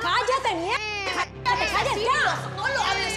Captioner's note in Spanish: el bebé llora